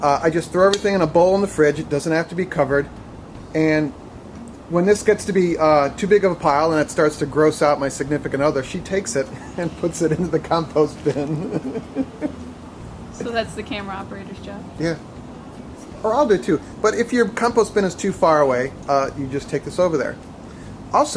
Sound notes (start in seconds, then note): 11.6 laughs